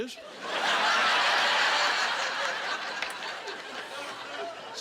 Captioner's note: laughing